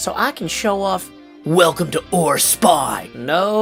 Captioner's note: "action movie" voice